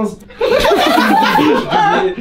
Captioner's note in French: rires